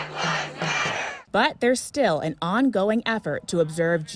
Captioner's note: crowd